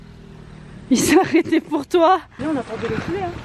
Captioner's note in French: rire